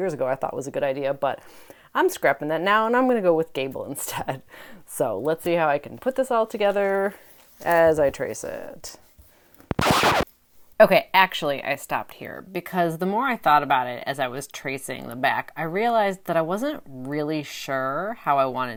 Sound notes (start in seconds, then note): 9.6 needle scratching a record